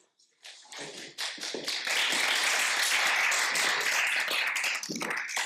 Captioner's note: audience applauding